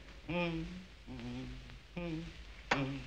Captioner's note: humming